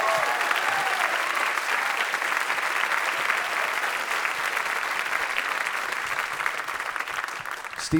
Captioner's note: audience applauding